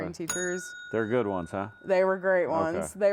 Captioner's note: bell dings